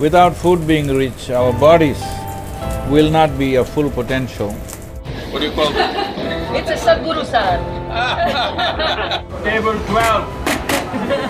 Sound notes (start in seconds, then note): 7.9 laughs; 7.9 both Laugh